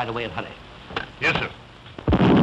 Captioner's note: boom